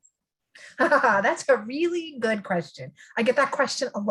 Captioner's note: laughs